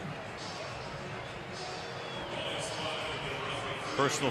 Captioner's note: cheering